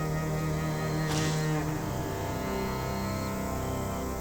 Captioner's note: door shuts